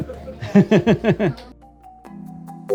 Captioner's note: laughing